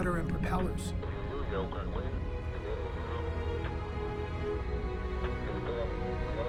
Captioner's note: man speaking in foreign language